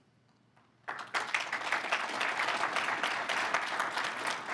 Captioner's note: crowd applauds